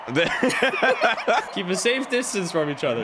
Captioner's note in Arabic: تضحك